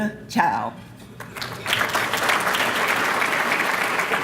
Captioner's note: applause